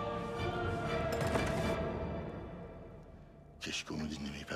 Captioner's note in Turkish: Kapı kapanma sesi